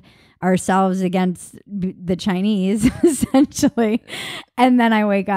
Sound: laughing

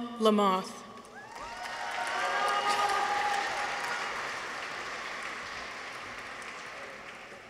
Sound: people cheer; audience applauds

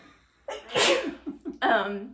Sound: sneezes

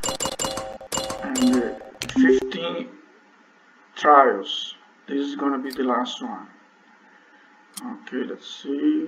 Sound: click

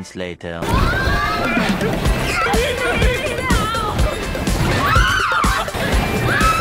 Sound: screams

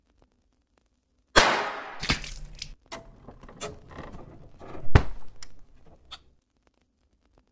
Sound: gunshot firing; blood splattering

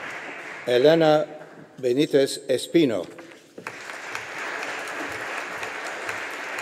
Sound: audience applauding

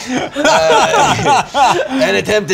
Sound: laughter

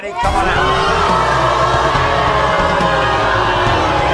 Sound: audience booing

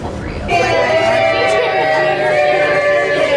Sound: cheer

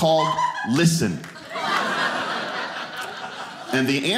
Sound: audience laughing

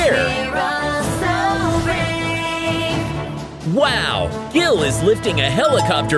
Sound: none

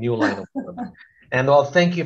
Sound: laughs

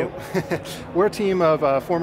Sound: laughing

